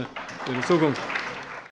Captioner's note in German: Allgemeiner Beifall